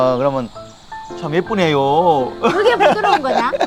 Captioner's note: sarcastically